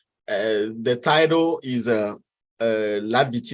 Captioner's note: speaks in foreign language